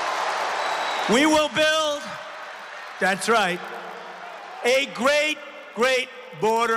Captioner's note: applause; cheering